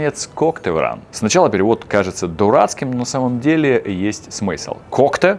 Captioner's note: Russian